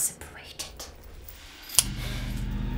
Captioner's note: suspenseful music; gun cocks